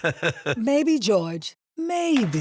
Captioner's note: laughs